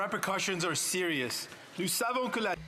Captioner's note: speaking French